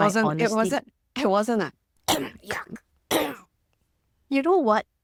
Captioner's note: cough